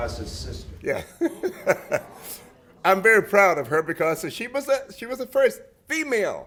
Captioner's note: chuckle